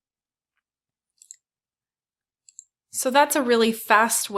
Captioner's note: mouse clicking